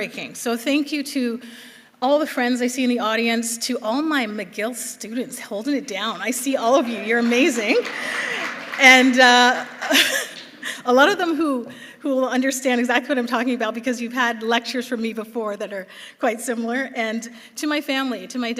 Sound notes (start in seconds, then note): 8.8 applause; 9.6 laughs